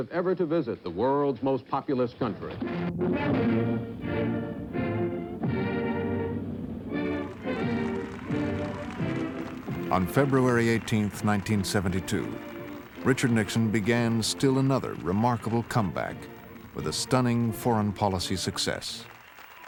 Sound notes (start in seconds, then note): 2.5 band playing; 6.4 crowd cheering